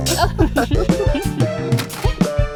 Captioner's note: Candle and Silver Spoon laugh